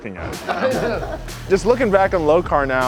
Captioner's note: laughing